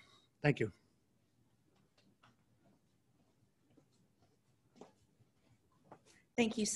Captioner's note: silence